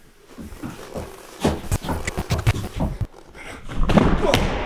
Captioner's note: static crackling; nails scraping; body thudding; Jacob grunting